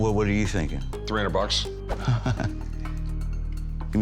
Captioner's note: chuckles